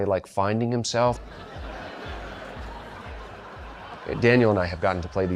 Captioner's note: laughter